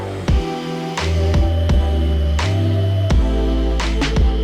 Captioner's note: sander buzzing